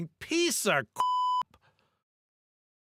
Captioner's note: beep